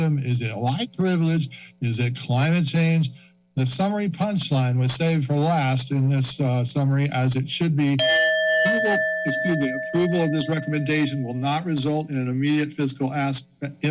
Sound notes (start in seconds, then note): 8.0 bell rings